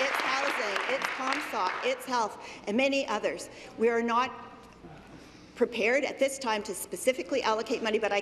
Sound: applause

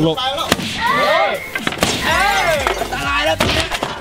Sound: cheering

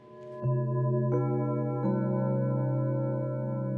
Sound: bells chiming

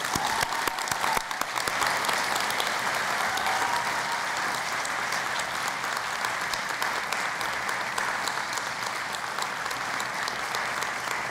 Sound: cheering and Applause

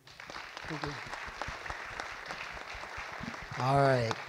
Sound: audience applauds

